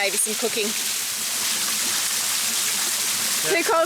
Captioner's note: water burbling